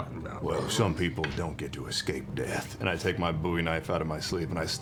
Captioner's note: deep voice